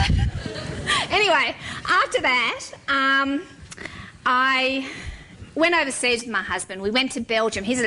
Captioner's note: laugh